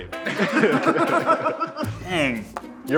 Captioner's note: group laughing